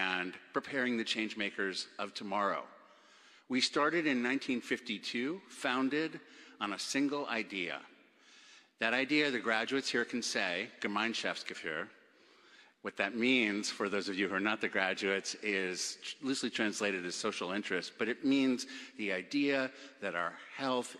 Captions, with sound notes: and preparing the change makers of tomorrow. We started in 1952 founded on a single idea that idea the graduates here can say good (Speaking German) what that means for those of you who are not the graduates is loosely translated as social interest but it means the idea that our health